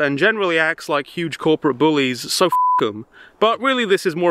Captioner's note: beep